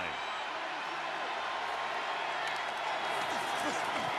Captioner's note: crowd cheering